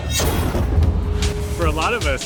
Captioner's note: intense music; thunder rumbling